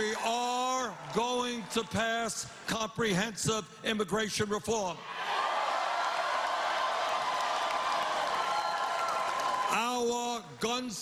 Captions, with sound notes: [ CHEERS AND APPLAUSE ] WE ARE GOING TO PASS COMPREHENSIVE IMMIGRATION REFORM.